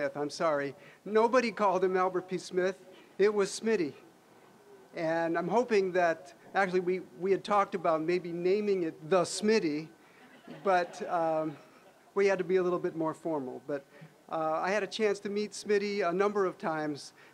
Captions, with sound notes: I'm sorry, nobody called him "Albert P. Smith." It was Smitty. And I'm hoping that-- actually, we had talked about maybe naming it "The Smitty," but... (audience laughing) we had to be a little bit formal, but I had a chance to meet Smitty a number of times